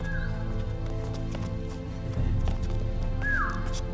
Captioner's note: speaks tribal language